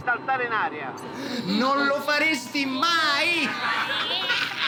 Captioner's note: laughter